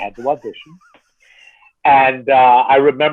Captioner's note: laughing